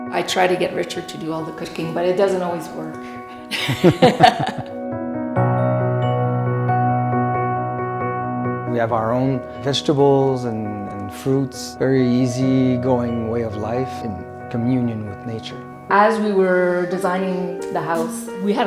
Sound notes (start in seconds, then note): 3.4 laughs